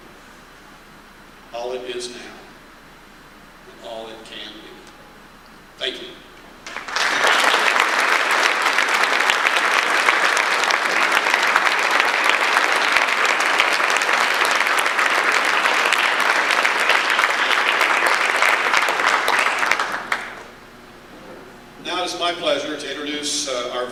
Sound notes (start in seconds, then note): 6.6 audience applause